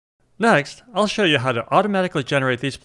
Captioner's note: none